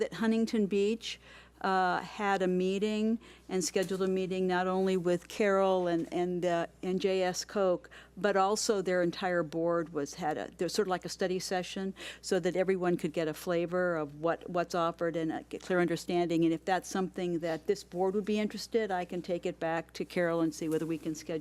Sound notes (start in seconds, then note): none